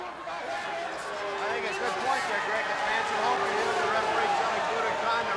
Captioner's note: audience booing